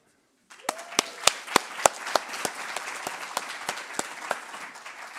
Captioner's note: applause